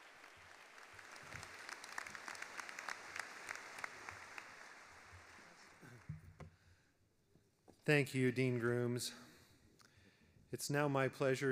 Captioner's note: applause